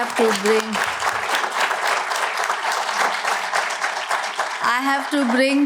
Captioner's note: applause